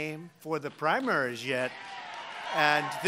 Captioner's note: applause